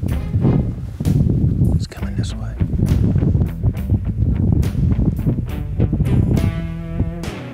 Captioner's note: whispering